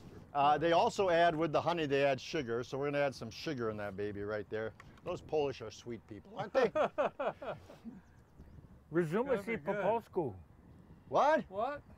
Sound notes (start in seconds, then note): 6.3 man laughs; 9.0 man speaking polish